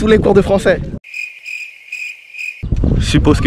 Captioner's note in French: Bruit de grillon